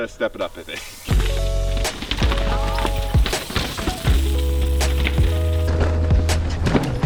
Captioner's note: wheels squeaking; lively music